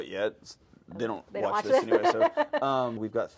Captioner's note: host laughs